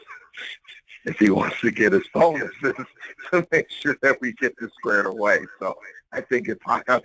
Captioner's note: laugh